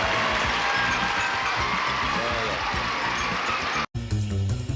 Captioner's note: applause